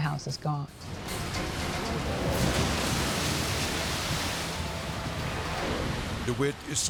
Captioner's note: edgy dramatic music; waves exploding